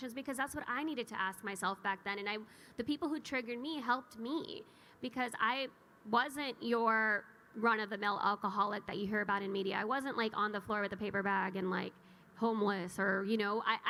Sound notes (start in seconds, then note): none